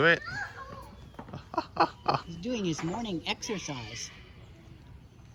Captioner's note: chuckling